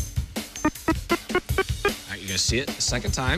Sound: beeping

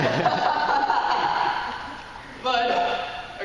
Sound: laughing

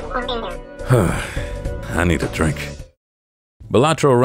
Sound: sigh

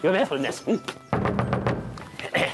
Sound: knock knock knock!

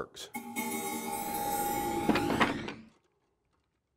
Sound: clock chimes

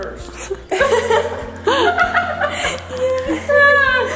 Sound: laughing

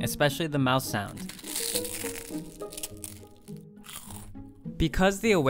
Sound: cracker crunching

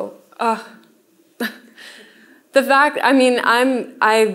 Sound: chuckles

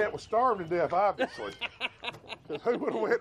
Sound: laughs

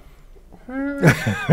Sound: laughter

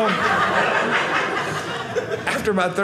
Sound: audience laughing

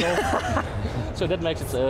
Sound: laughs

